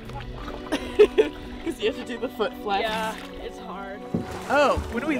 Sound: laughs

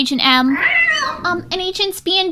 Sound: cat meowing; mouse squeaking

